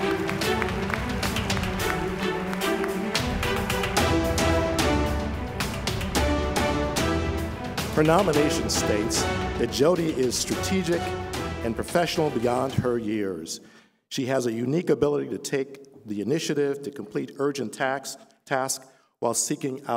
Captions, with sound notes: RECIPIENT OF THE STUDENT ASSISTANT OF THE YEAR AWARD WOULD JUDY RINK MARKETING OF COMMUNICATIONS PLEASE COME TO THE STAGE. [APPLAUSE]